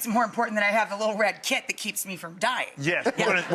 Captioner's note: laughing